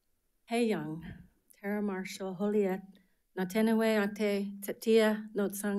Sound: speaking foreign language

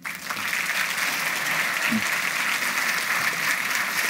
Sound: audience applauds

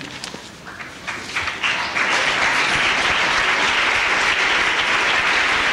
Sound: applause

